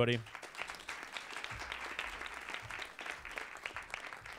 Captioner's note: audience claps